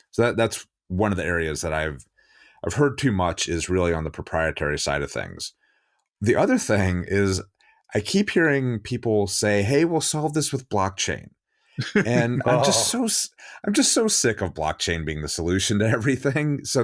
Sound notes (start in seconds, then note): 11.8 laughing